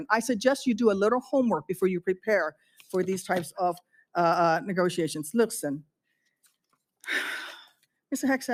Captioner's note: gasps from the room